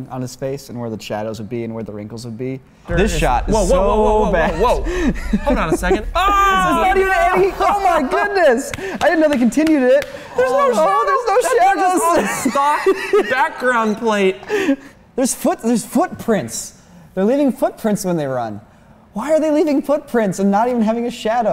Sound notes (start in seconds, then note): 5.4 group laughter and cringe